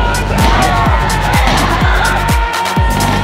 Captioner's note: screams; upbeat music